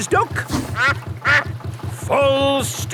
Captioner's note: quacks